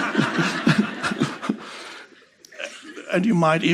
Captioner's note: Eckhart și publicul râzând